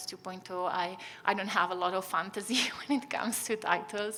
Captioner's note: chuckles